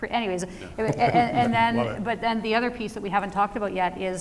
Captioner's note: chuckling